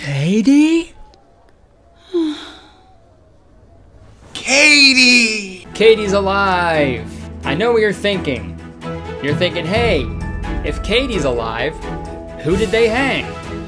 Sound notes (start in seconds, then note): 2.3 sighing